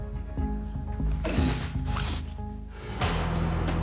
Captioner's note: groans